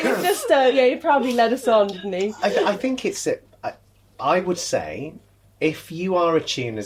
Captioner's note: laughter